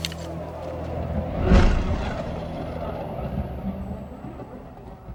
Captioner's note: thunder rumbling